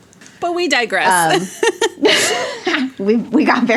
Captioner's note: both laugh